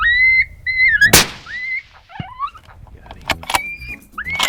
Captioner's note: gun shot